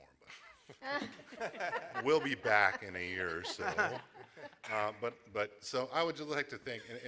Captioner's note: laughter